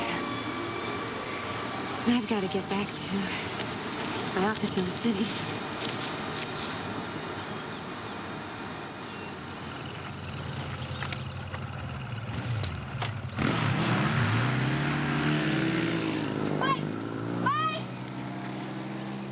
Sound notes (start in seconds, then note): 10.6 motorbike revs